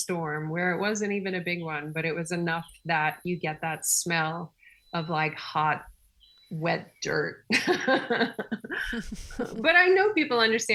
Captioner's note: laughing